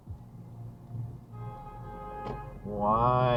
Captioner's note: honking up ahead